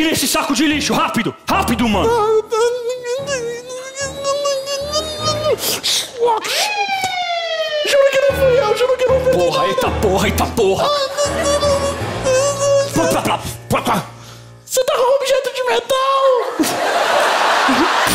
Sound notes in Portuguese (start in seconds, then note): 2.5 gemidos agudos; 6.4 sirene